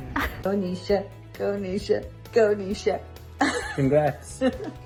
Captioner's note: laughs